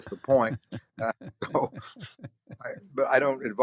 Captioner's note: chuckling